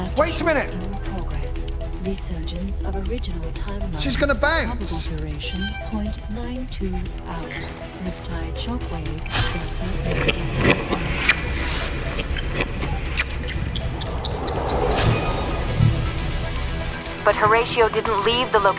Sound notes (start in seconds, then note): 11.0 vortex rushes; 13.7 tense trance music plays; 14.8 clock ticks backwards